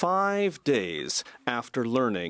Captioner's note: speaking French